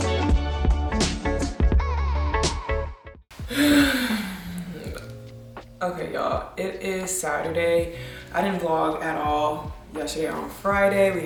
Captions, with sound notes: (chill music ends) (sighs) Okay y'all it is Saturday. I didn't vlog at all yesterday or on Friday.